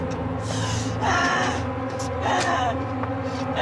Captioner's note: grunting